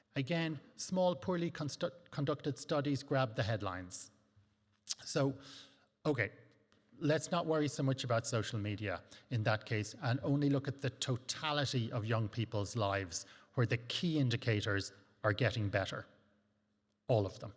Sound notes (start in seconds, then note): 4.8 lips smack